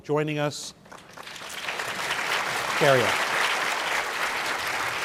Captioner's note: applause